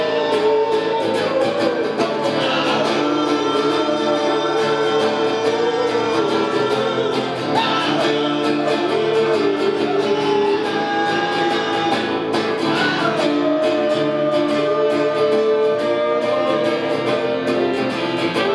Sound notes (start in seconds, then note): 7.5 audience howling